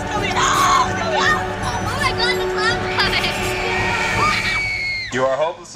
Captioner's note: screams